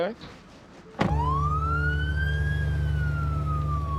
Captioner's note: siren wailing